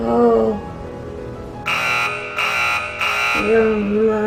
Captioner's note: beep. Beep. Beep